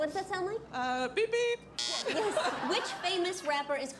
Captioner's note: buzzer